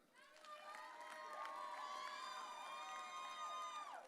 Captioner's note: audience cheering